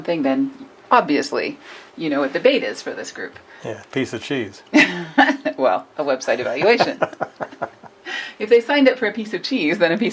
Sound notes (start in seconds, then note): 6.4 man laughs; 6.5 laughs